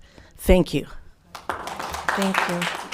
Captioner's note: crowd applauding